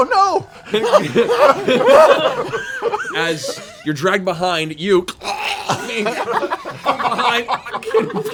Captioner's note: choking